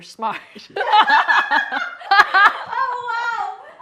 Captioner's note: laughs